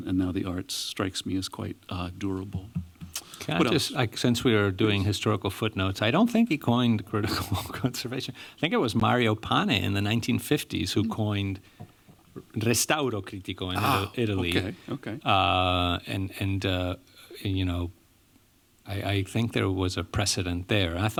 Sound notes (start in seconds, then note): 12.5 non-english